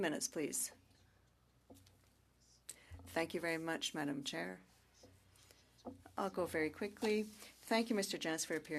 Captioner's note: speaking French